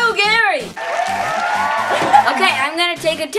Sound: cheering and applause

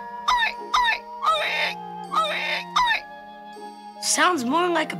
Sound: oink oink oink

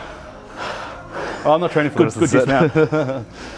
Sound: laughing

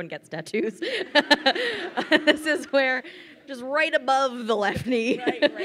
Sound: laughs

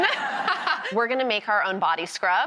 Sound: laughs

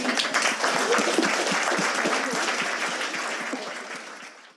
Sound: audience applauding

